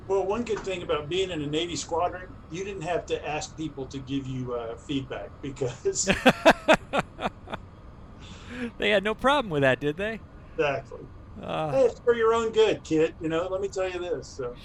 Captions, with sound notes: - Well, one good thing bout being in a Navy squadron, you didn't have to ask people to give you feedback because - (laughter) - They had no problem with that, did they? - Exactly. (sighs) Well, it's for your own good, kid, you know? Let me tell you this, so...